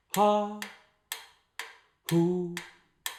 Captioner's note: ticking sounds